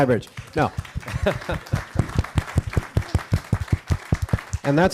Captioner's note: all applauding